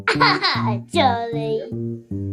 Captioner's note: laughing